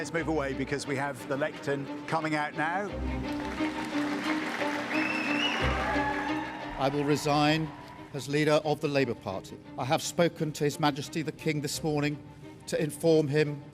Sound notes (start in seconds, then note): 3.2 cheers and applause